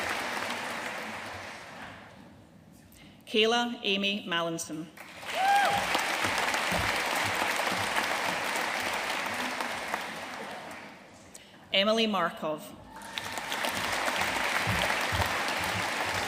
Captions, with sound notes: Kayla Amy Mallinson. (AUDIENCE CHEERING AND APPLAUDING) Emily Markov. (AUDIENCE APPLAUDING)